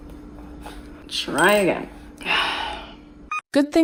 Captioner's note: sigh